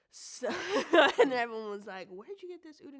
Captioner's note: laughs